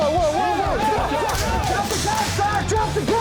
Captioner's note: shots firing